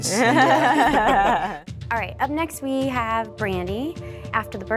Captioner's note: laughter